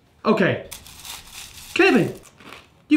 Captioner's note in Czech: chroupání